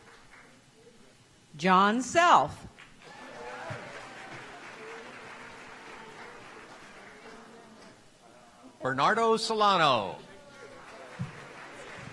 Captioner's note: applause